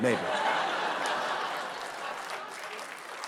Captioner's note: laughter